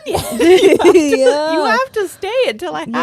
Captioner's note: both laughing